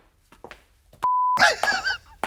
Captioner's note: beep